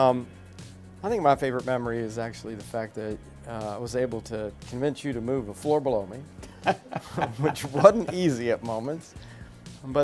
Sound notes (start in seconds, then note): 6.4 laughing